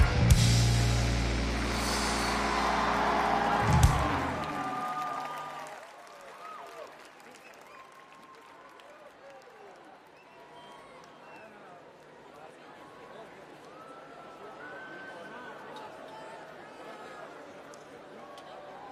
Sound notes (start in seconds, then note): 1.3 crowd cheering